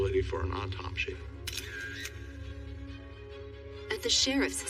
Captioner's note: camera shutteter clicks